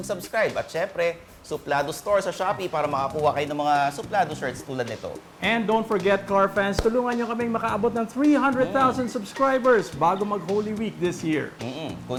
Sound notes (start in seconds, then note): none